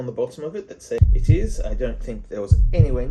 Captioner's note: heart beating